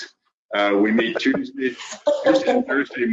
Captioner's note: group laughing